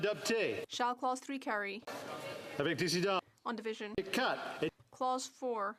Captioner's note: speaking French